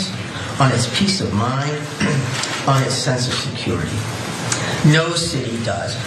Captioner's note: cough